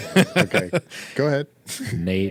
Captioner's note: laughing